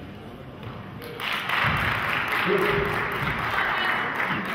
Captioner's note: clapping